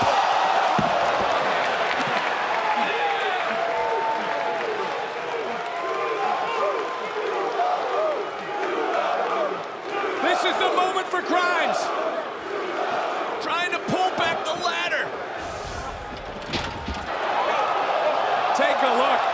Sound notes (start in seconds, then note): 4.6 crowd chants "to the moon"